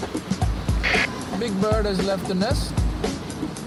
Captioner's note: walkie-talkie crackles